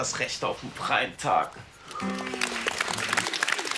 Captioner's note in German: Applaus